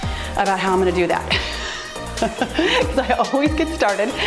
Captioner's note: laughs